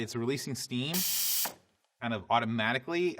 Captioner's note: Breville hisses